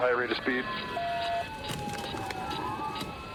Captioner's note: sirens blaring